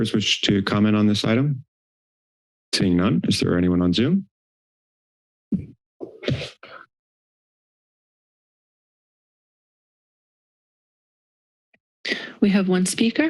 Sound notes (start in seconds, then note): 7.3 silence